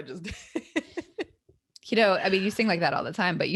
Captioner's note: laughs